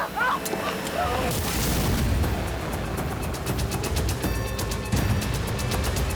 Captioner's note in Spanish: gritos; explosión